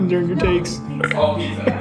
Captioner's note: burps again